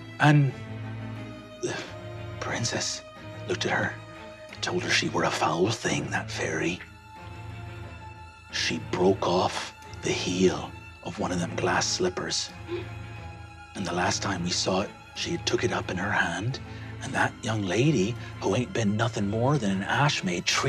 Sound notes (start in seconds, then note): 12.6 gasps